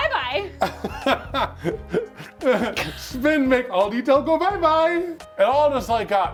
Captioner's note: laughs